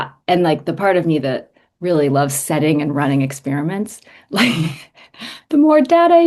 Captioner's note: chuckles